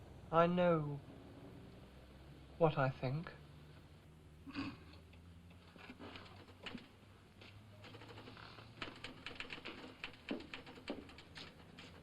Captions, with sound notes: I know... what I think. (scoffs) (typewriter chattering)